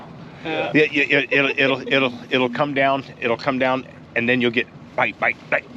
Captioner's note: chuckling